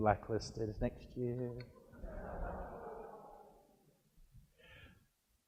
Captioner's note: audience laughs